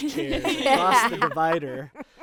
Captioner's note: group laughing